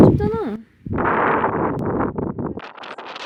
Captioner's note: snow and strong wind